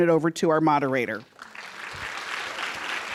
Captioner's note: applause